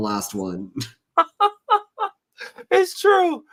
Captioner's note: laughter